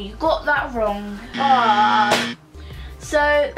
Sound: buzzer

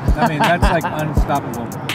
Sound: laughter

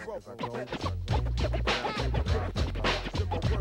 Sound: record scratching

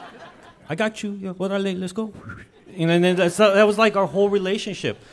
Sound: whistles

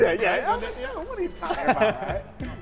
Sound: laughter

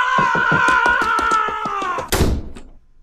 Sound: SFX: fading footsteps, door slamming

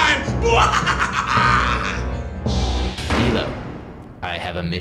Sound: evil laugh

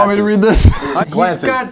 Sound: laughter

